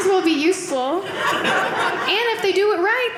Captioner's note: audience laughing